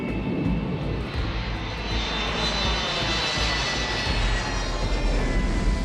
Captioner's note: rugido do motor